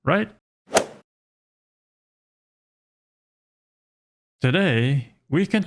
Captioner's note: golf swing sound effect